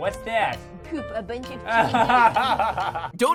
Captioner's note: laughs